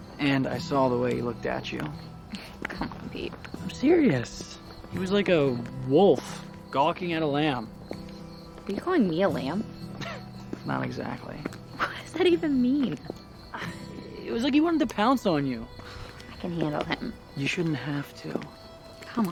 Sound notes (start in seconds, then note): 9.9 chuckles